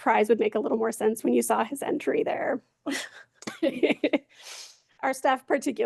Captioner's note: laughs